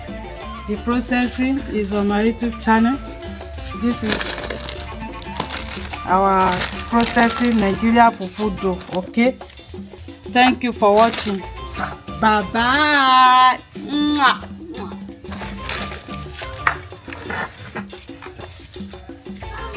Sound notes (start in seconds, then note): 14.5 kisses